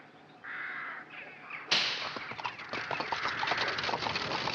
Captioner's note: whip cracks